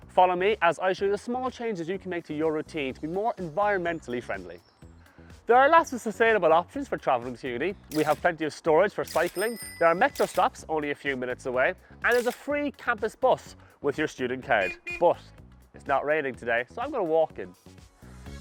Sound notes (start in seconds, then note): 9.0 bicycle bell dings; 12.1 camera shutter snaps; 14.6 horn honks